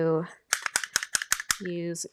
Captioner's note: container clicking